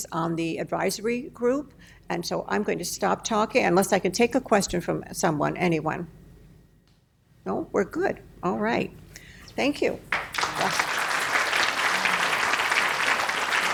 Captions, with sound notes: on the advisory group, and so I'm gonna stop talking, unless I can take a question from someone, anyone. No, we're good. All right. Thank you. (applause)